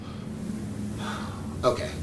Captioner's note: sigh